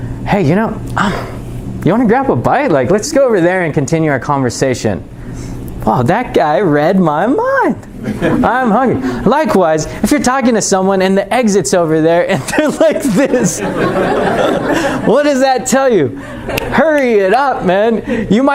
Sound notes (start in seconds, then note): 12.4 chuckling